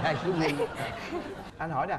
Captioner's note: laughing